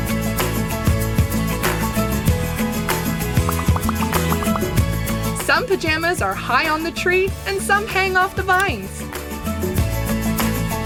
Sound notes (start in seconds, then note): none